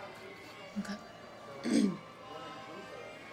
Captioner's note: clears throat; blues music playing